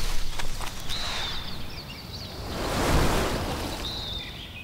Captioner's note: birds chirping